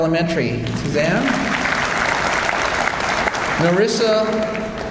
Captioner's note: audience applauds